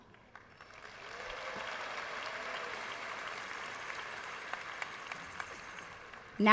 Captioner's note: audience applauds